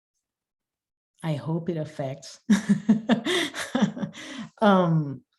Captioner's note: laughing